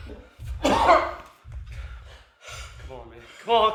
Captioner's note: man coughing